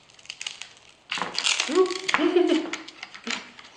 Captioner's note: laughter